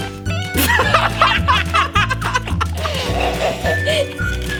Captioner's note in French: Rires bruyants